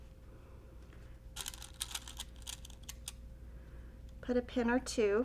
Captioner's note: pins tinkling